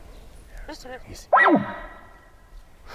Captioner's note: bark calls